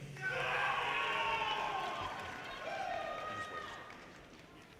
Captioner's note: audience cheers and applause